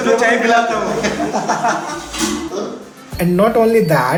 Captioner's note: laughs